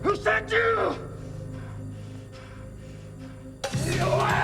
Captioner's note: yelling